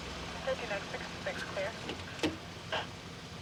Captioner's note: walkie talkie talking